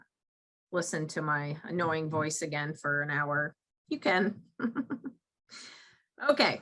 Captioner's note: chuckles